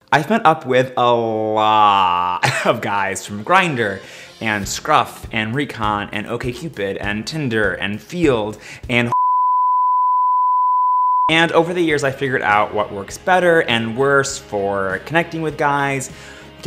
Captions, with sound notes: - I've met up with a lot of guys from Grindr and Scruff and Recon and OkCupid and Tinder and Feeld and (beep). And over the years I figured out what works better and worse for connecting with guys,